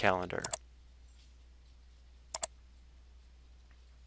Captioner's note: mouse clicking